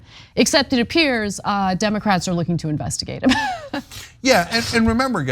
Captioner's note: laugh